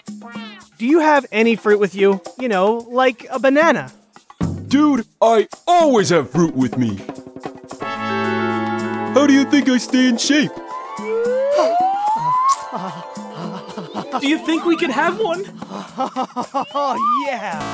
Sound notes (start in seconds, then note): 11.8 gasping; 17.6 error sounds